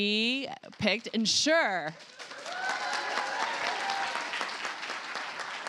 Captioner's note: cheers, applause